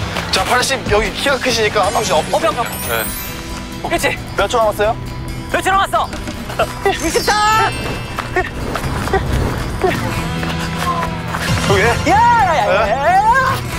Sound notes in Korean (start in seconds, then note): 7.8 조금씩 가빠지는 숨